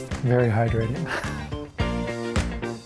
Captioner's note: laughing; upbeat music